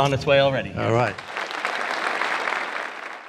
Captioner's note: audience applauding